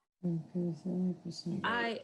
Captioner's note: murmuring